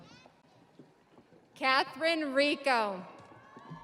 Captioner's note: audience applauding; audience cheering